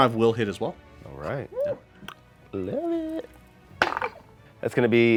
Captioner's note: dice roll